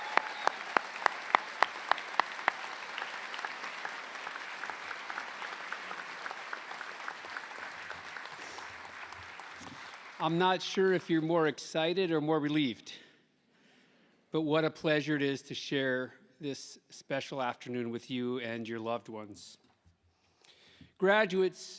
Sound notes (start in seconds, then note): 8.2 applause